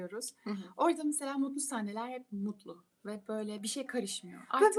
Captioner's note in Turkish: boğazını temizler